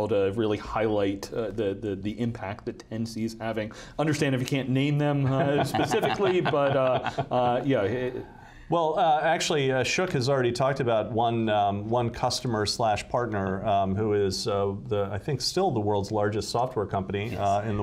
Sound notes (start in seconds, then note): 5.2 laughing